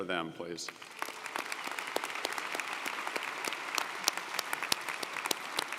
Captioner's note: audience applauding